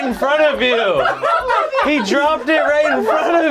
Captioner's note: group laughs